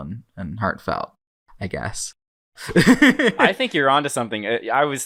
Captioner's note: laughs